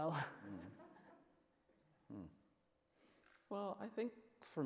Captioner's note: audience laughs